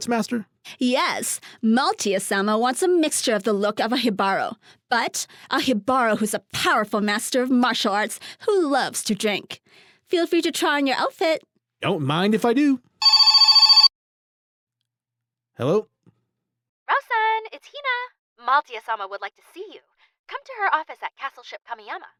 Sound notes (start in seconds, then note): 13.0 phone rings